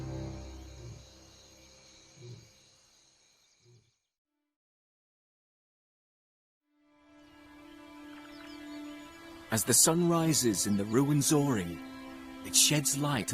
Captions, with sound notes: As the sun rises in the Rwenzori, it sheds light on one of the Nile's mysteries. (peaceful music) (birds chirping)